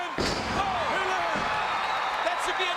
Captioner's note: crowd cheers